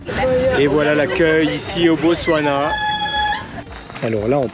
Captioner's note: traditional cry